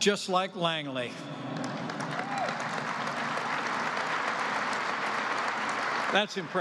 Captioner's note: applause